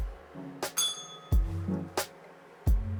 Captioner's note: bell rings